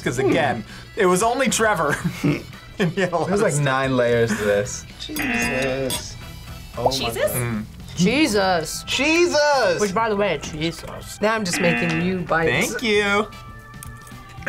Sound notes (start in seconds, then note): 1.9 laughs; 5.2 buzzer; 11.5 buzzer